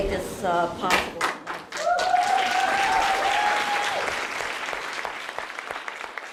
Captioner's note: applause